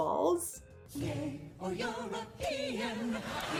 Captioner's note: audience laughs